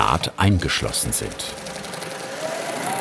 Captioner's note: rattling, droning